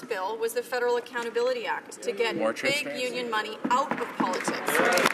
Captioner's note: some Applause